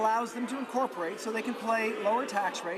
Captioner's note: none